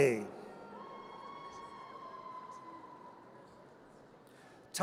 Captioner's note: audience cheers